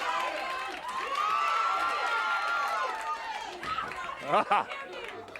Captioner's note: audience cheers